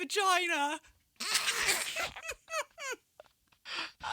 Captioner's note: laughter